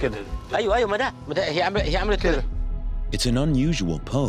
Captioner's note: speaking foreign language